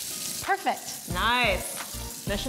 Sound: water running

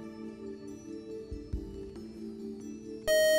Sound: beeping

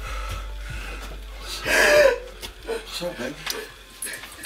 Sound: Renee cries

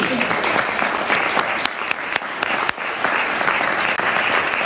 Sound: audience applauds

